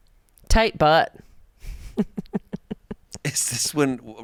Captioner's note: laughs